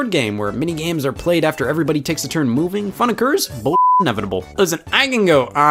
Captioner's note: beep